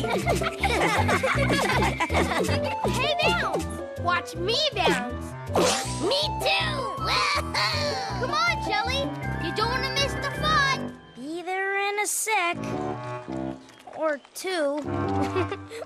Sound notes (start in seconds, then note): 0.0 laugh and giggle; 15.2 giggles